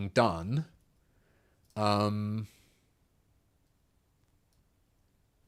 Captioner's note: silence